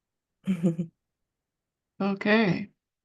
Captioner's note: laughs